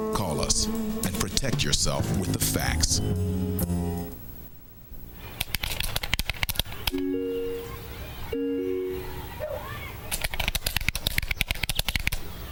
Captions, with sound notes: CALL US AND PROTECT YOURSELF WITH THE FACTS. ■■■ [COMPUTER KEYS CLICKING]